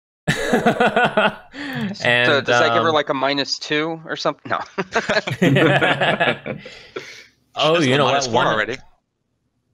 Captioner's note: laughter